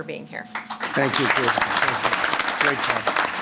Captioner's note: applause